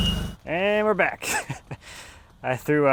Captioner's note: laughing